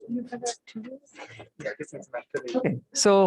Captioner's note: background chatter